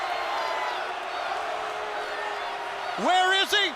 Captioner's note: crowd chatter